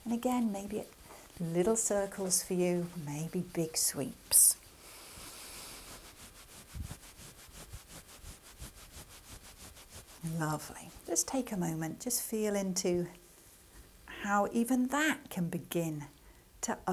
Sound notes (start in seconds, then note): 5.0 hand rubbing